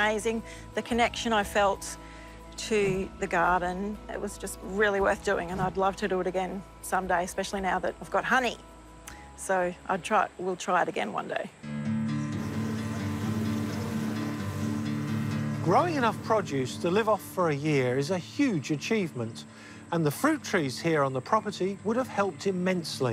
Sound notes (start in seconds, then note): 11.7 bees buzz